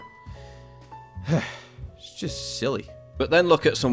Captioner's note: scoffs